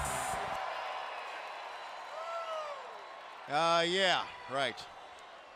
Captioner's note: crowd chatter